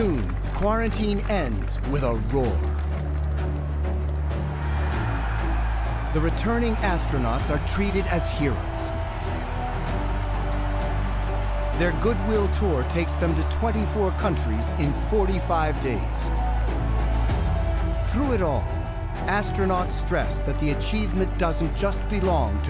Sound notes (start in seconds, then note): 4.8 applause